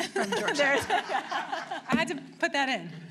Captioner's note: laughter